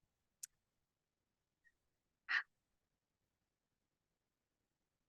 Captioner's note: silence